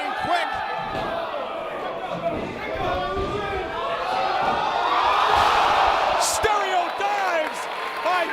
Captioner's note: applause